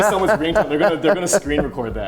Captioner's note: laughing